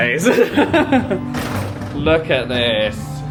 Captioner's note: laughs